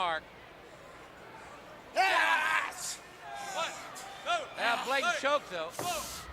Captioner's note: crowd chatter